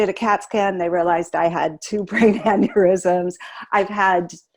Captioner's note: laughing